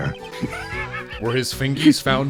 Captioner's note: giggling